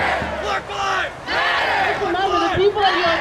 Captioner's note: crowd